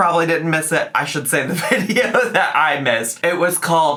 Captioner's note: laugh